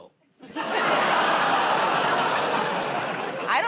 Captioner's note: laughter